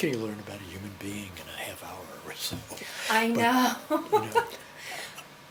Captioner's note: laughs